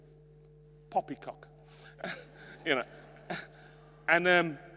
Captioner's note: and attendees chuckle